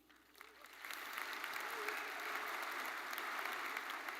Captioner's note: audience applauding